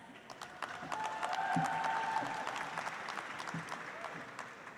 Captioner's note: audience applauds